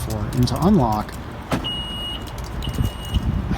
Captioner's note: beep